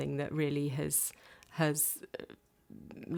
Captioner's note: none